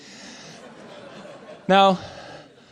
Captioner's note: audience laughing